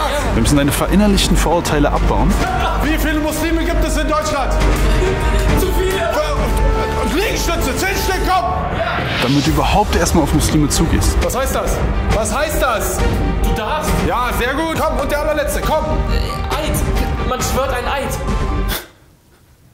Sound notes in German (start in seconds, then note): 15.8 Verächtliches Schnaufen